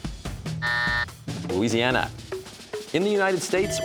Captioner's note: buzzer; bell rings